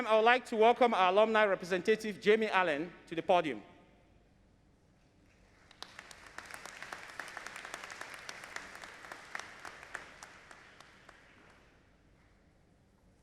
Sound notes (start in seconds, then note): 5.5 audience applauding